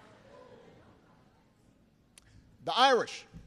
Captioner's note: laughter